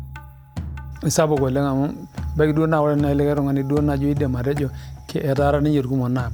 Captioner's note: speaking in foreign language